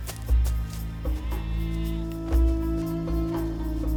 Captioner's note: goats bleating